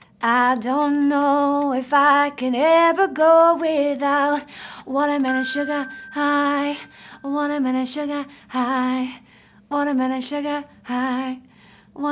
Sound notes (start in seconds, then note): 5.2 bell dinging